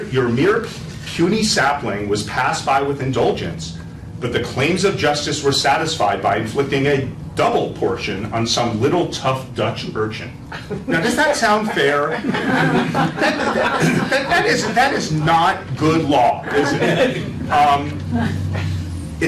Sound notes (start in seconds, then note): 11.5 laughter